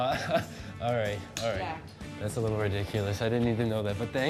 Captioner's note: laughs